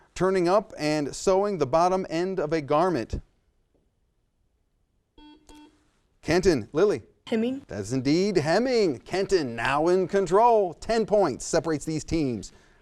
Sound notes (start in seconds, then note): 5.2 buzzer sounds